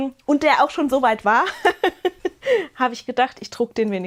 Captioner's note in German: Gelächter